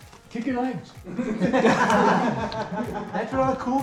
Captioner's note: man laughing happily; group laughing happily